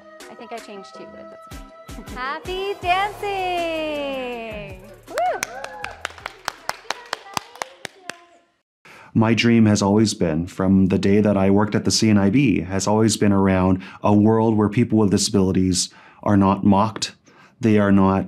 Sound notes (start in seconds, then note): 5.0 clapping